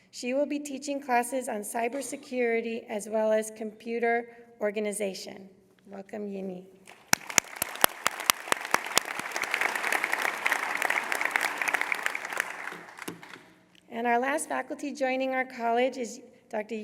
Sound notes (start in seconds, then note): 6.8 applause